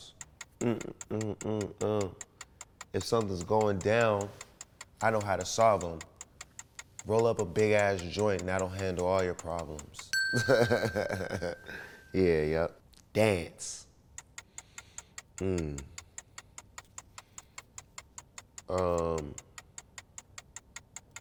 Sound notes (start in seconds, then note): 0.6 humming; 10.1 bell dings; 10.3 laughs